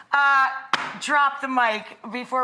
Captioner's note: book thuds